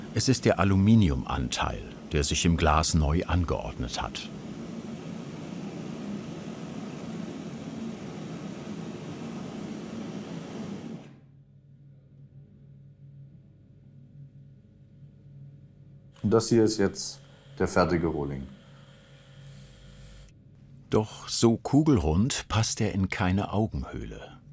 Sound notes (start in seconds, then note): 5.9 hissing; 11.5 silence